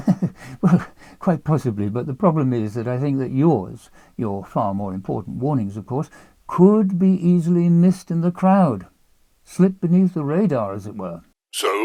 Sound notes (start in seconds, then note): 0.0 laughs